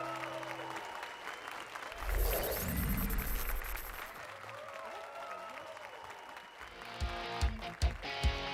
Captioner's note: applause and cheers